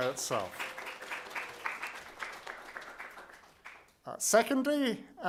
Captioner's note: audience clapping